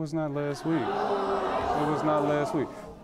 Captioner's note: audience groans